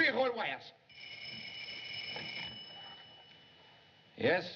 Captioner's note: ringing